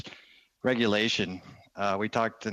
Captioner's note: speaking in French